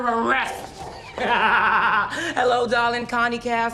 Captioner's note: laughs